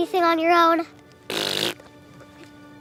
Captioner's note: spitting sound